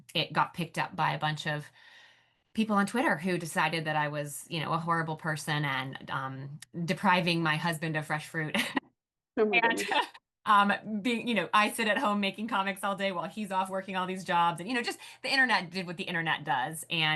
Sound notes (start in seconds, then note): 9.4 laughs